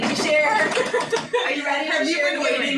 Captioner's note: hands drumming